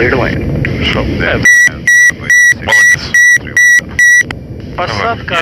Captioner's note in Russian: звук отключения автопилота